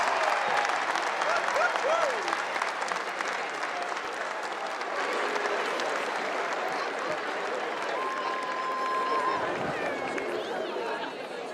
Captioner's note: cheers and applause